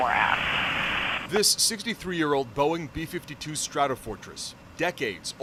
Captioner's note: voice-over